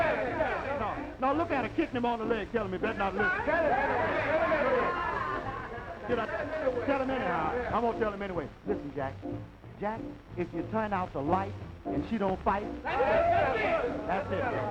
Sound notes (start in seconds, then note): 6.6 shouting